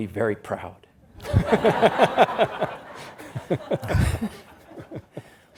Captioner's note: audience laughs